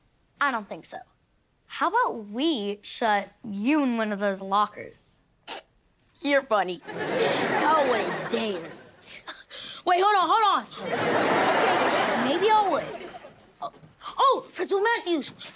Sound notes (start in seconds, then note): 6.9 chuckles